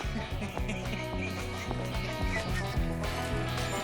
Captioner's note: laughing